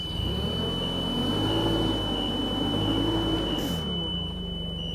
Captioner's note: forklift engine revving